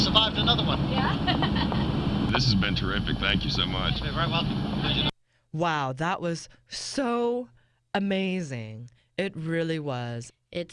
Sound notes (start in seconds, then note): 4.4 laughter